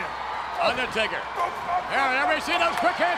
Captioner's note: audience cheers